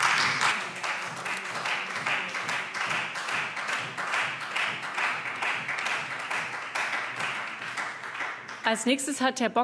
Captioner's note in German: Beifall Freie Demokraten